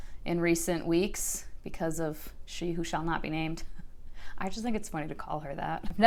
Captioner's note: chuckles quietly